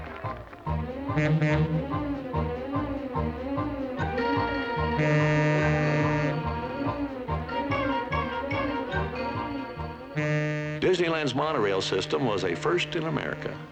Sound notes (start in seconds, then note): 1.0 monorail horn